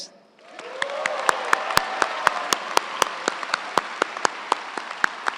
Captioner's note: crowd cheering and applauding